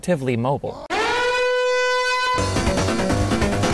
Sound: alarm blaring

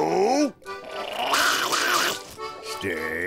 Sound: growling

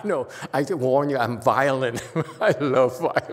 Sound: laughs

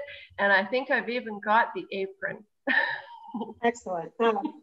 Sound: laughs

